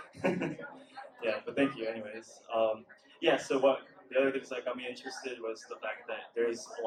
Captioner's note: laughs